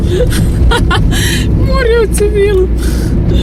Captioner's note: laughter